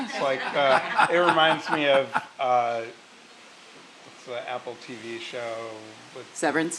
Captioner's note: laugh